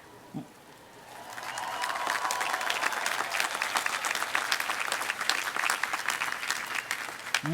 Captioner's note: applause